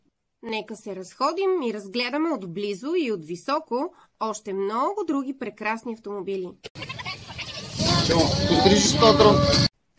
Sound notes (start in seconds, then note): 6.8 crowd voice to me